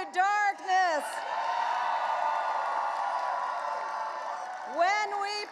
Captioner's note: audience cheering and applauding